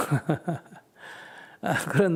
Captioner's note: laughter